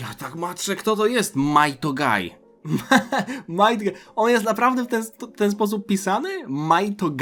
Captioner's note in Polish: śmiech